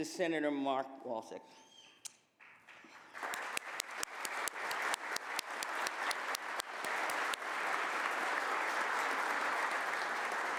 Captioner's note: applause